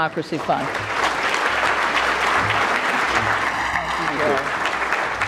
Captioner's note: audience clapping